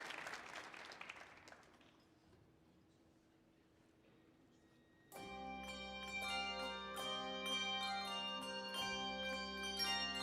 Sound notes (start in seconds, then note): 0.0 audience applauding; 5.1 orchestra playing